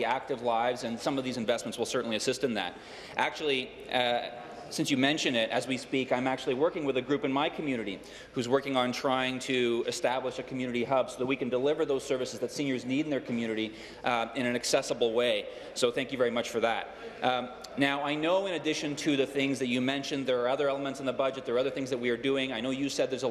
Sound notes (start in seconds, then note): none